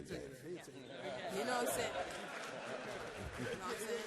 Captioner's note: all laugh